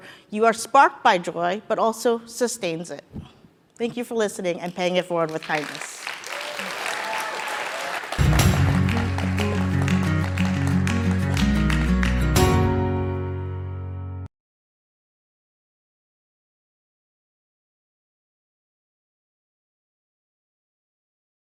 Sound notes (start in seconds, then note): 7.2 applause